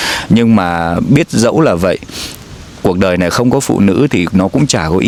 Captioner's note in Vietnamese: khịt mũi